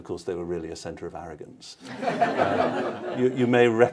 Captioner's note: laughter